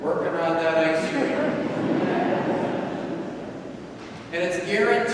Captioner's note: audience laughing